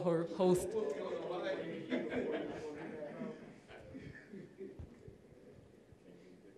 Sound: audience laughing

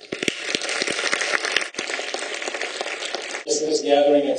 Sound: clapping

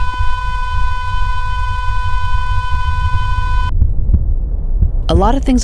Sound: single tone on monitor

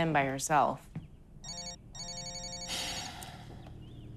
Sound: cellphone buzzing, ringing; sighs

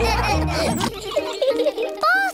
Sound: laughter; all giggling

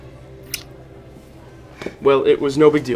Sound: smooching

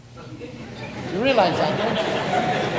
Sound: audience laughs

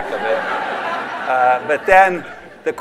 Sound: laughter

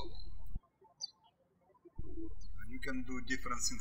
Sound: birds chirping

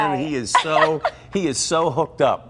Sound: laughter

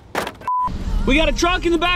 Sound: test tone

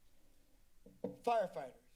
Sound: silence; thumping sound

